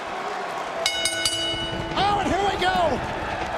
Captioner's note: bell ringing